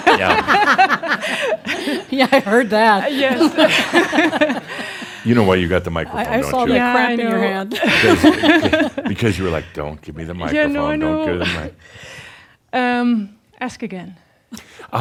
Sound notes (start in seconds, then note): 3.9 they continue laughing; 7.7 they chuckle; 13.2 she chuckles